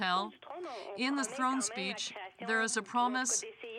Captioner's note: speaking french